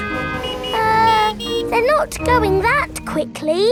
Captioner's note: horns honking